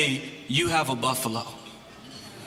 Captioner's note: crowd